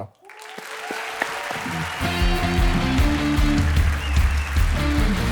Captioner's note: audience applauding; upbeat music